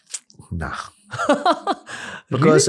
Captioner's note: laughter